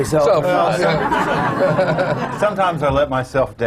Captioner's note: laughter